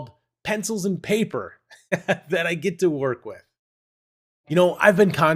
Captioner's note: laughs